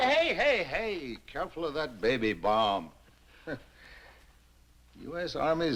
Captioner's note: chuckles